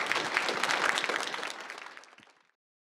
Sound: applause

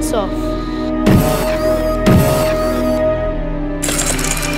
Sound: whirring

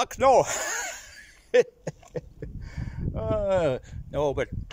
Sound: laughs

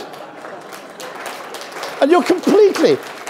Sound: audience applauds

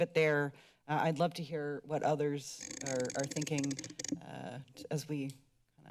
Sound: mic noise

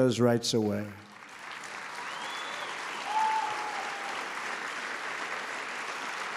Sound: applause

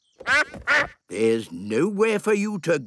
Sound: quacks

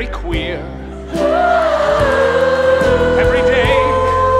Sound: audience laughs

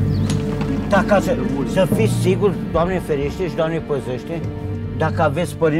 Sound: speaking in foreign language

